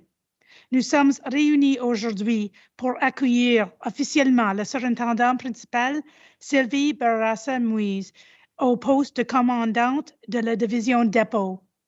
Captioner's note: repeats in French